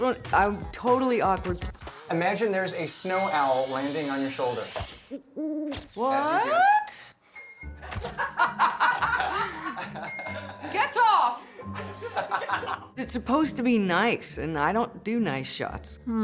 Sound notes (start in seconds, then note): 7.8 laughter